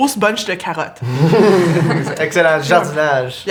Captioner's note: laughter